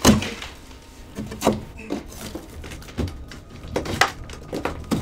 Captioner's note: drywall cracking